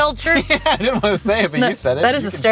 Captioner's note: laughter